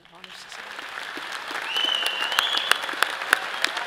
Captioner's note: all applauds